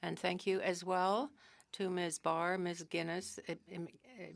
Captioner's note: speaking french